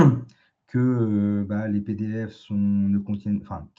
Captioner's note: raclement de gorge